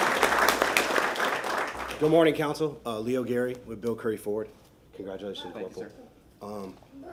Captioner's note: applause